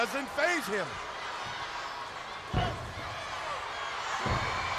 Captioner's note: crowd yelling